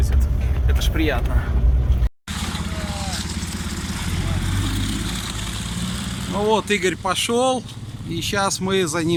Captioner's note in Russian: Звук мотора